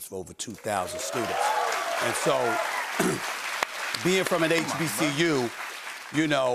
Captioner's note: cheers and applause